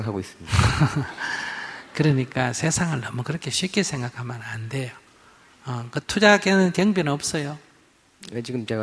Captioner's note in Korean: 스님 웃음